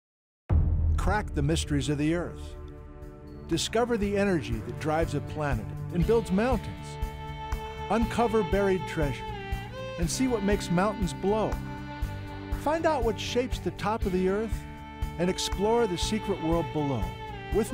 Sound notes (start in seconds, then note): 0.5 boom